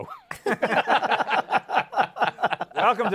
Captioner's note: laughter